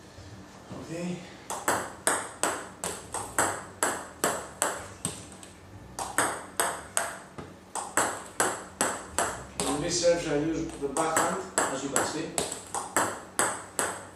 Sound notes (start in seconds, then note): 1.9 balls ping pong hitting continues